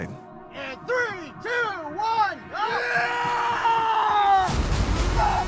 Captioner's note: hollers; groaning